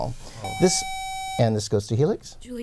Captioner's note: buzzer